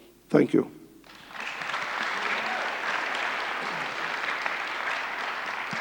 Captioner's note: audience applauds, cheers